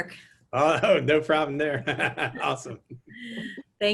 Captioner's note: laughing